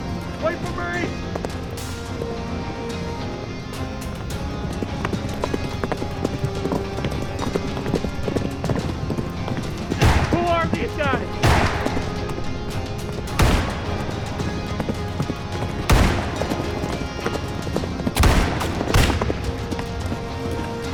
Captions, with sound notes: Wait for me! -Who are these guys? -[gunfire echoing] [gunfire ricocheting]